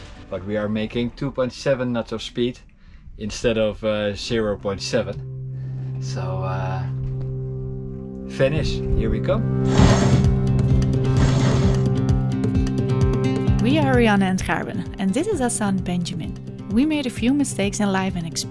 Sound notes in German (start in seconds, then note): 9.9 hartes Kettengeräusch